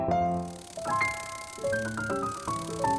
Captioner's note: soft fluttering noise